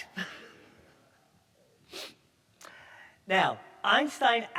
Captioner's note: all laughing